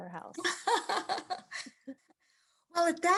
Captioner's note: laughs